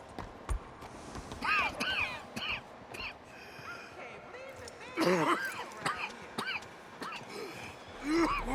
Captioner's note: Arthur starts coughing again